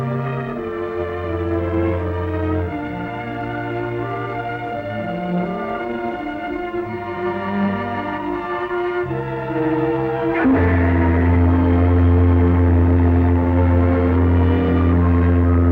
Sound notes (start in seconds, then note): 11.5 ship horn honking